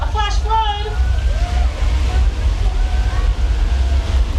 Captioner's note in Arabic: اندفاع الماء